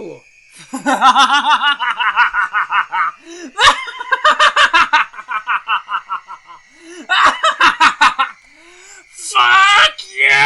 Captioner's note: Pidgy laughing very hard